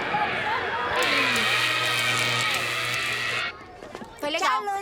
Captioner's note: crackling